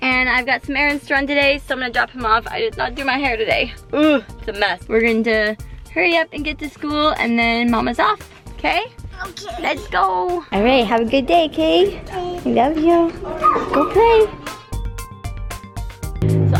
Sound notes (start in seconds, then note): 3.9 groans